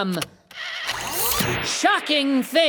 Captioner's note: machine whirring